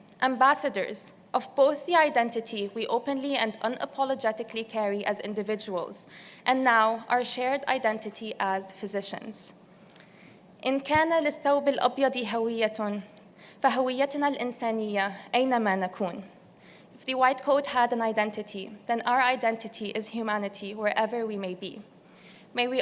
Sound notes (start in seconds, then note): 10.5 non-english speech